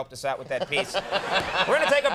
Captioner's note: laughs